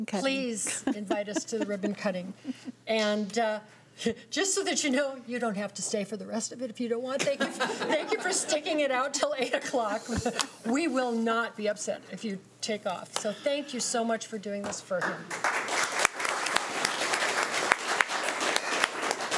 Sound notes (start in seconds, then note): 7.3 everyone laughing; 15.2 audience applauding